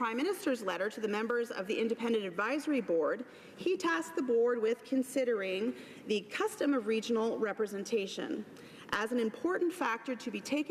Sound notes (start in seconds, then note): none